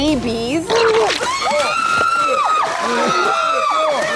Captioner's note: retches; screaming